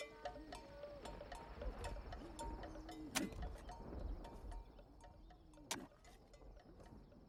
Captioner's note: shoveling, grunting with effort